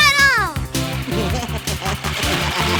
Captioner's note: laughing